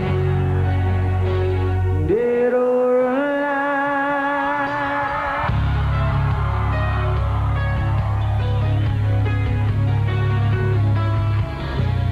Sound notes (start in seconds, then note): 5.3 applause